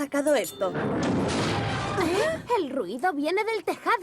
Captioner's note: loud mechanical noise